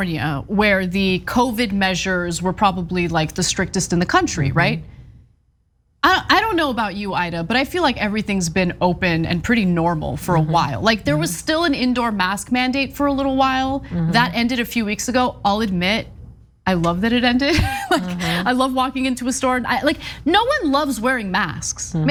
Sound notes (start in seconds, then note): 17.6 laugh